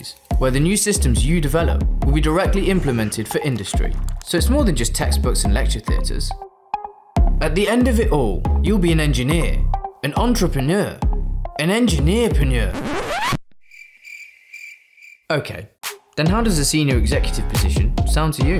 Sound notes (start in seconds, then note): 13.6 crickets chirping